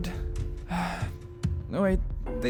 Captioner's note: sigh